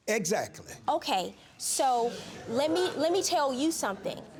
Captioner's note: audience chuckling